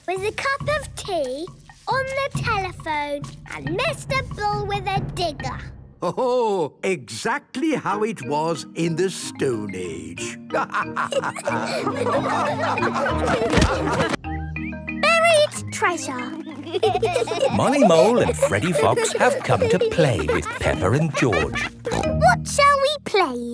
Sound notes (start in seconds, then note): 10.4 all laughing; 16.2 laughing